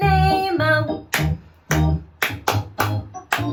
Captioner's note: clap, clap, clap-clap-clap